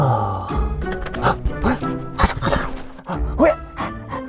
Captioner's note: scrabbling